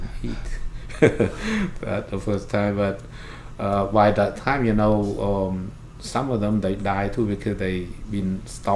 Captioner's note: laughs